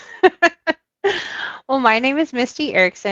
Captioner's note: laughs